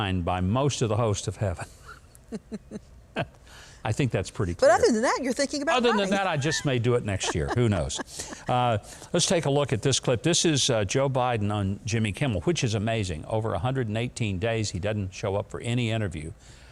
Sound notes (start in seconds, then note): 1.8 chuckles; 5.8 chuckles